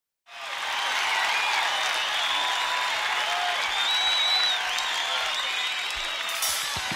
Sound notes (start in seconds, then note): 0.2 crowd cheering